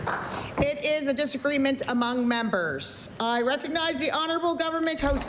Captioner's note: applause